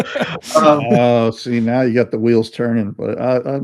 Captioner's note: laughing